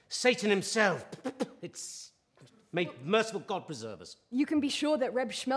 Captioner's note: spits